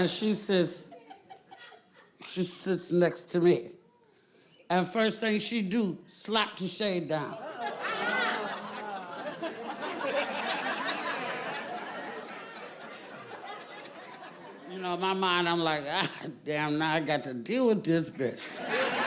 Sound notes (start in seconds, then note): 7.2 audience laughing; 18.3 audience laughing